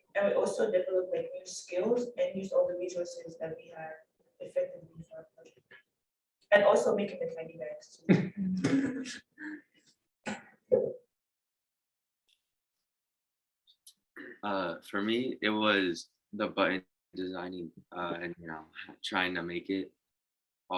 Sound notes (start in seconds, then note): 8.6 laughter